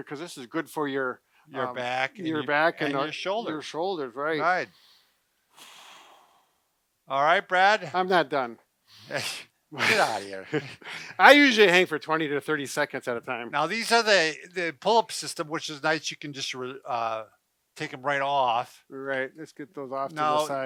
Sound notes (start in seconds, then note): 5.5 breath exhaling; 9.0 snorting